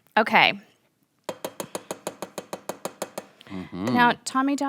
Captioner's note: tapping spoon against pot